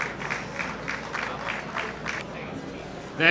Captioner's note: applause